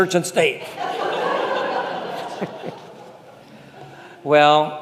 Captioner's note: congregation laughing